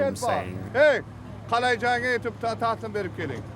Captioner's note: non-english speech